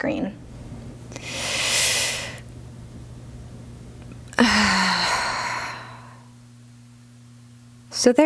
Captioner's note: preparational Sigh